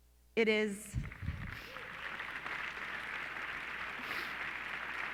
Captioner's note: clapping